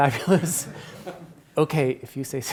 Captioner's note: attendees laughs